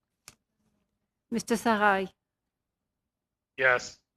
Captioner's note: speaking French